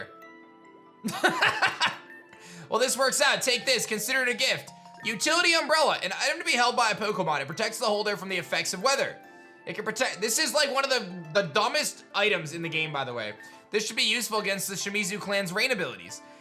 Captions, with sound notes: (laughs) Well, this works out. Take this. Consider it a gift. Utility Umbrella. An item to be held by a Pokemon. It protects the holder from the effects of weather. It could protect... This is like one of the dumbest items in the game, by the way. This should be useful against the Shimizu Clan's rain abilities.